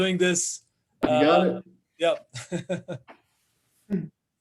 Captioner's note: laughs